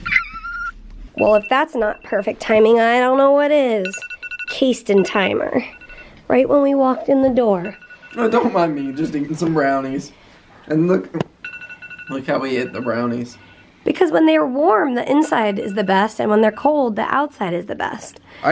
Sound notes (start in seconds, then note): 3.7 phone alarm